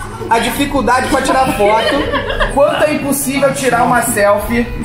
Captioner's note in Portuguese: risadas